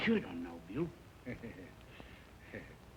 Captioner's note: chuckling